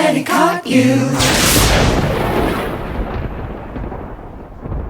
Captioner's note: lightning crashes